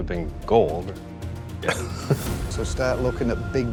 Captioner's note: laughs